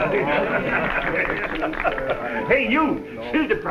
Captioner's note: crowd clapping